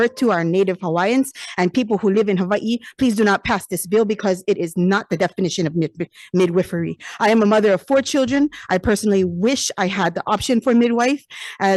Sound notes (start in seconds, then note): none